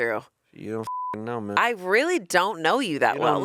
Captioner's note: beep